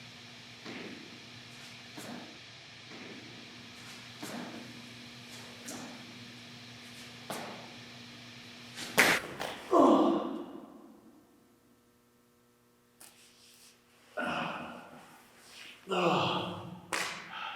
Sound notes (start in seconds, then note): 0.2 static humming; 8.9 body thuds; 9.2 Jacob groans; 15.8 Jacob groaning